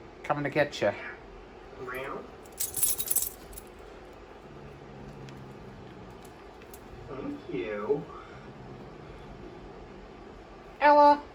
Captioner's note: TV plays in background